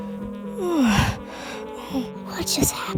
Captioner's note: yawns